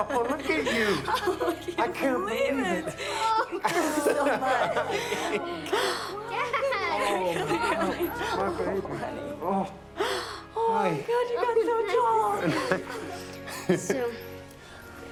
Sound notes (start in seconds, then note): 2.7 laughing